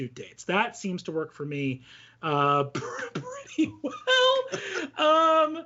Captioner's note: laughs